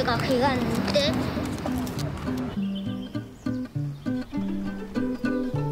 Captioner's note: birds chirping